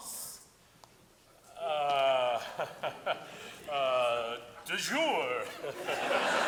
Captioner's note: laughing; audience laughing